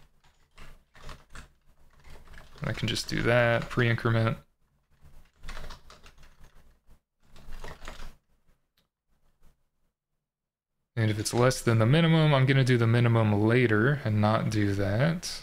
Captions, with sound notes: I can just do that pre-increment. (keyboard clattering) And if it's less than the minimum, I'm gonna do the minimum later and not do that.